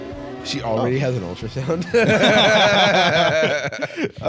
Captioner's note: both laughing